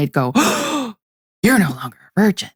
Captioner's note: gasps